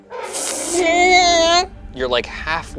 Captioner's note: squeaks